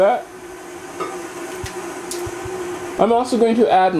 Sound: mixer noise

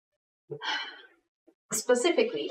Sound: exhales loudly

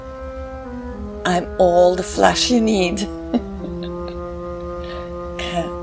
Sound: chuckles

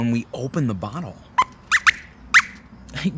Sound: squeaks squeaks

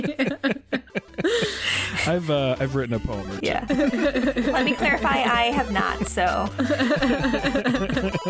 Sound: all laughter

